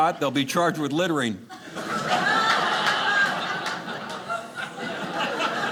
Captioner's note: audience laughing